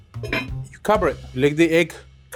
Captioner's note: lid clunks